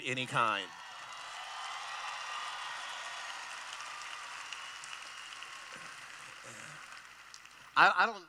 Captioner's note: cheering